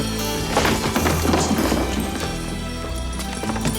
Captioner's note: door thuds